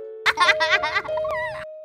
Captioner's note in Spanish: risas